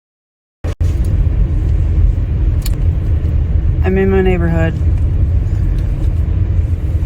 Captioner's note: car motor in background